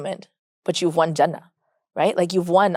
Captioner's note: speaks Arabic